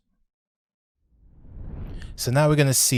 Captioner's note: swooshing